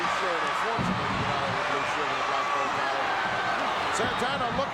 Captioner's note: speaks faintly